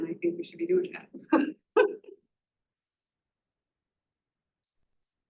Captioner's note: laughter